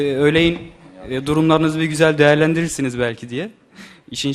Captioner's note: laughs